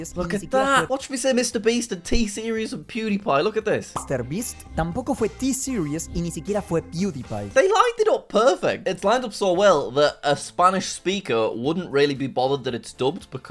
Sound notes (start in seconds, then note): 0.0 interpreter speaking Spanish; 4.1 interpreter speaking Spanish